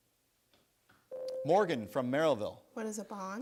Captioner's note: buzzer sounds